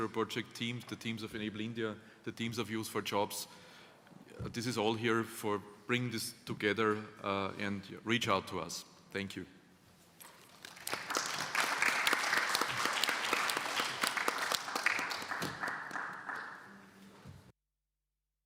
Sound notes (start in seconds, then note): 10.4 applause